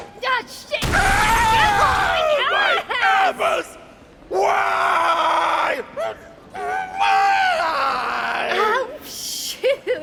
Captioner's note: horrifying scream